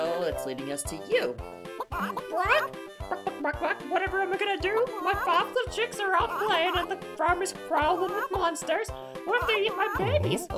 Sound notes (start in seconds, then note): 1.7 imitating clucking; 2.3 clucking noises